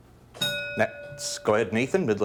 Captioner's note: bell dings